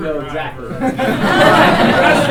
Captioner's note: laughter